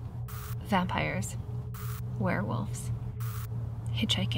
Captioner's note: static crackles; static crackles